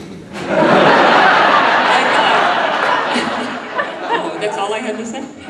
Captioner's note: audience laughing